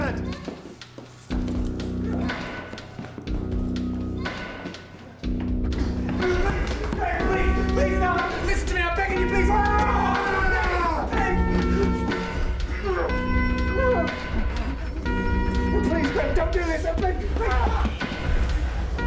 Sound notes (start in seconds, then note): 9.4 banging; 11.0 desperate music; 16.8 yelling